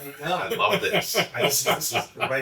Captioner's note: chuckling